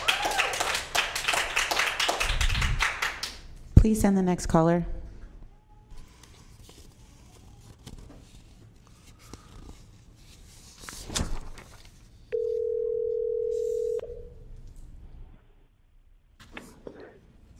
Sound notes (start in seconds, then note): 0.0 applause